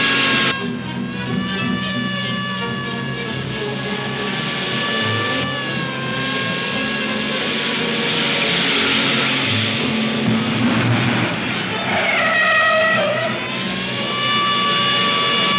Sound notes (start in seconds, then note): 12.0 tires screeching